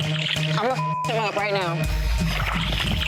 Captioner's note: beep; tense music